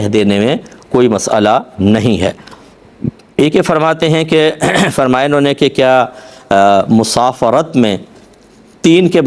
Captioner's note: clears his throat